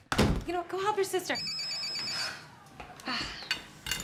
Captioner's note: phone ringing